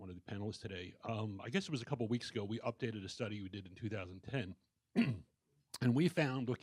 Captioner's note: clears throat